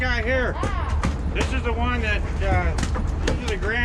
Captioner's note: boat engine idling